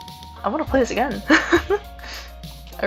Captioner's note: giddy, airy laugh